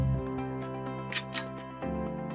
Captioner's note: click